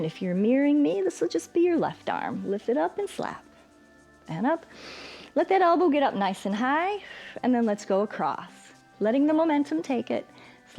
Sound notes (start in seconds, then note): 4.7 inhales